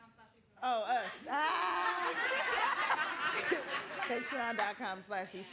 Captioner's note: laughing